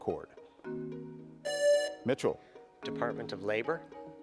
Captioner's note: presses buzzer